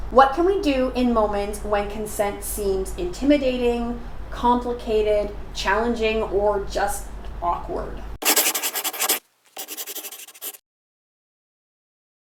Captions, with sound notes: What can we do in moments when consent seems intimidating, complicated, challenging, or just awkward? [Scribbling]